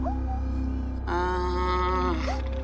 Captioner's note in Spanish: Ladridos